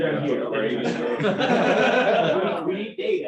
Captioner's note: laughter